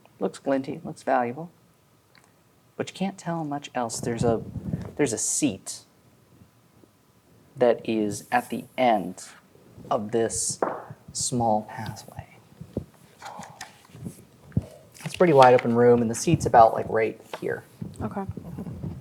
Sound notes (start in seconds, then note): 12.3 cards rustling; 12.3 gasps